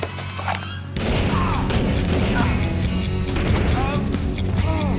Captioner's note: gun fire; groaning